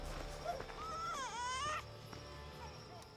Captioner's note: baby cry